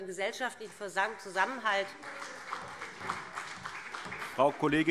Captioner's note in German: Beifall BÜNDNIS 90/DIE GRÜNEN und CDU